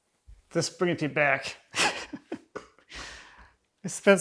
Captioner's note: chuckling